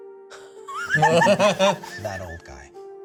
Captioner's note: laughs